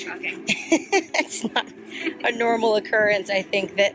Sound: laughs

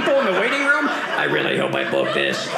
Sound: robotic voice

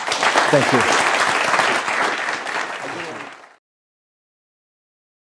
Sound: applause

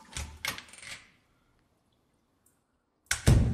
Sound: door creaks; door bangs

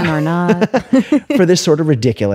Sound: laughter

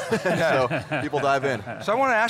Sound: laughter

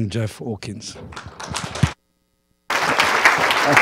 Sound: applause

